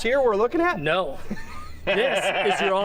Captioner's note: laughs